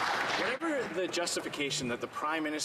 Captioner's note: some Applause